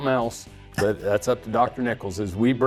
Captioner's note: laughs